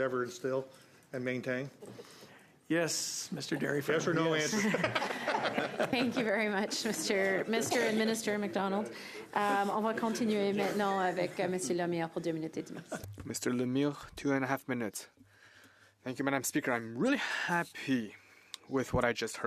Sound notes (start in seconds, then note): 12.5 laughter